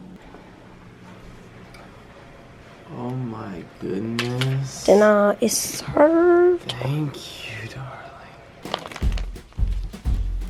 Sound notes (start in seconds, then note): 8.6 plastic crinkling